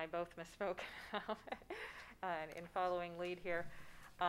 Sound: laughing

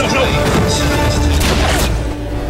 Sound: gunshot sound

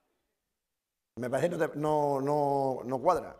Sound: speaking spanish

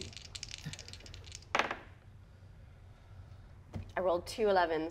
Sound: dice rattle and tap table

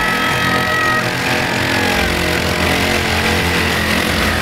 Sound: bikes growl

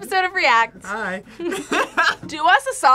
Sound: laughs

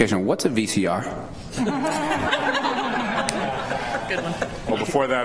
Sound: laughter

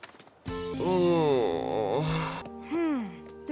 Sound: groans

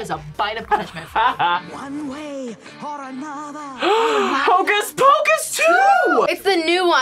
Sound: gasps

